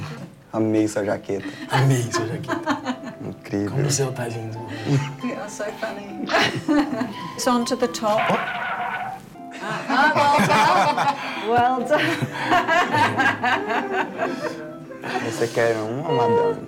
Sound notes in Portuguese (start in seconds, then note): 11.2 risos